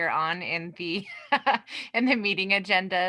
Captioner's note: laughs